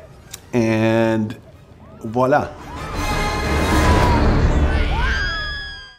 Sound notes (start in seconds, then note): 3.7 babies crying; 4.9 woman screaming